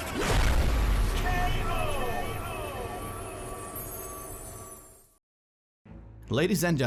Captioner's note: voiceover